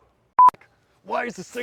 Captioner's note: screen beeps